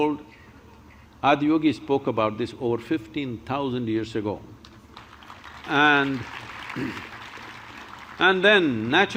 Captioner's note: applause